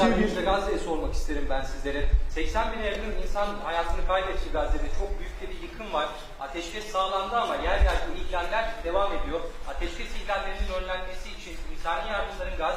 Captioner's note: speaking Turkish